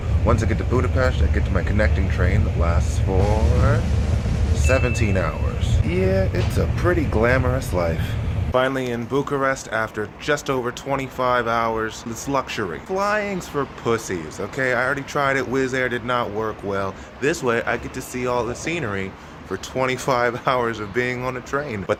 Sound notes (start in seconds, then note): 4.0 drum roll; 4.6 ding